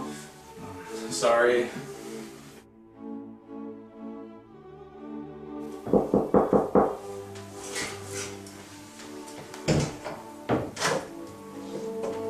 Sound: knock on the door

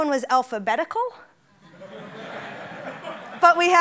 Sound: laughing

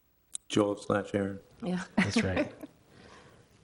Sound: chuckling

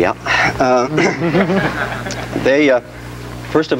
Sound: audience giggles

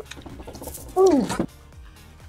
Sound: gulps

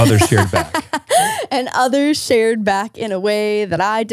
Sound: laughs

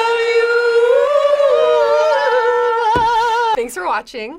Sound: all vocalizing

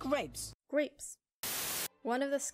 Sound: static

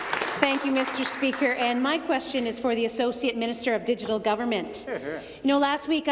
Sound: some Applause

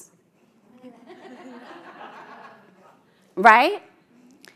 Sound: audience laughs

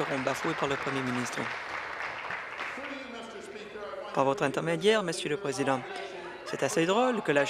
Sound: applause

